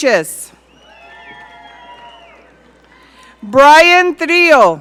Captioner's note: audience cheering